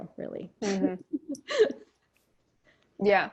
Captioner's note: laughs